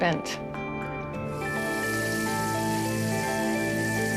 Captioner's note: sizzling